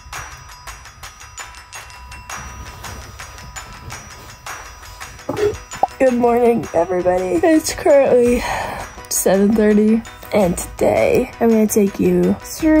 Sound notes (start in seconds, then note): 0.2 upbeat happy music; 8.6 sighs